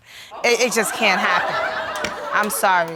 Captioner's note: audience laughing